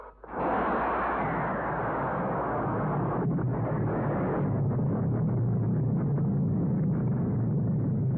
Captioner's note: sound of jet fighter bombers. Bombs exploding on palace